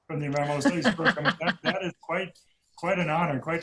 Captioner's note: laughing